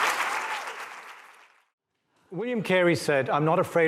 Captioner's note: applause